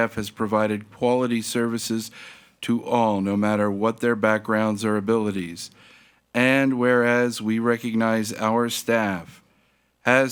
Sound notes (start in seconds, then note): none